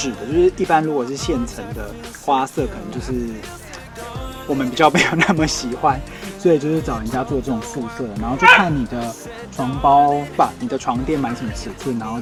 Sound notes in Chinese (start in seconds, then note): 8.3 柚子在叫